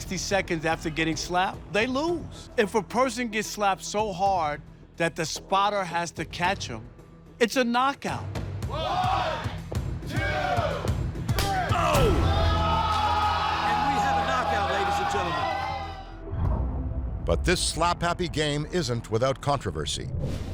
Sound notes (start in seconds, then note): 8.6 crowd; 11.3 hand slapping